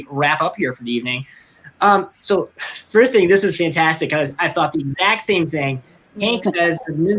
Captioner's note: laughs